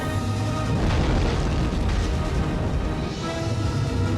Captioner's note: loud crash